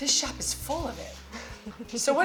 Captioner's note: chuckles